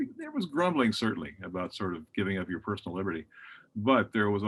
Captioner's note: none